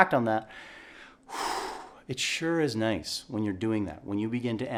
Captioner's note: exhaling